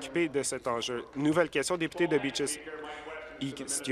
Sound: applause

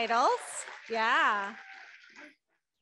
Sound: audience clapping

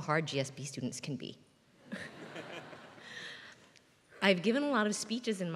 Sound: laugh

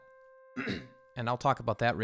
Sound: clears throat

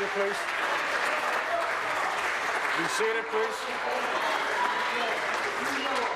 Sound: applause

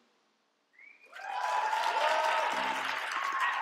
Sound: applause

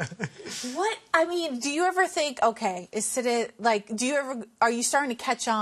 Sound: laughter

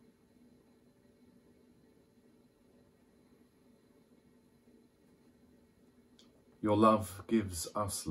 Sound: silence for reflection

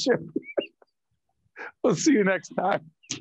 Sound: laughing

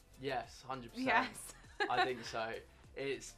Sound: laughs

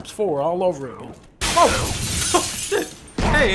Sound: glass shattering; laughing

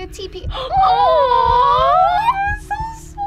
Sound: both awwing

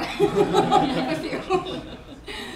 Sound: laughing

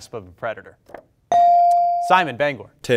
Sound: bell rings

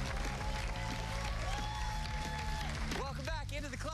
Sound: cheers and applause

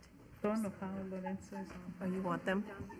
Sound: foreign language

